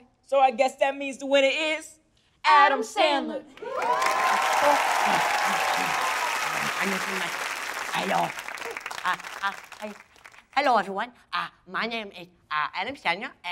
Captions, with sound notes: So I guess that means the winner is... Adam Sandler. [crowd cheering] Hello. Hi. Hello, everyone. My name is Adam Sandler.